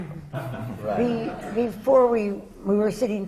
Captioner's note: laughter